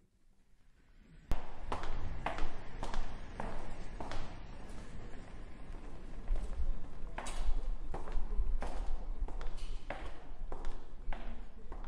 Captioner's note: footsteps in hallway